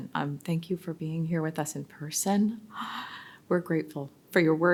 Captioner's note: gasps